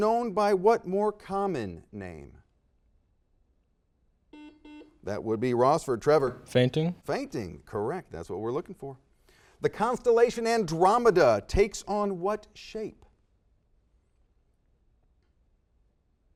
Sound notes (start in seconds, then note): 4.4 series of beeps; 13.2 silence